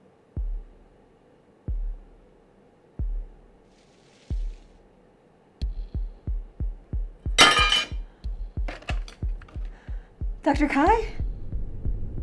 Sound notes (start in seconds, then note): 7.4 clatter